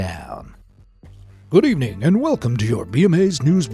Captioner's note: in a news anchor voice